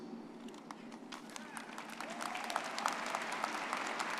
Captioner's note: people applauding